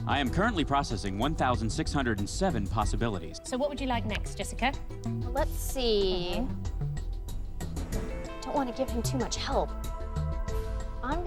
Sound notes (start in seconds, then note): none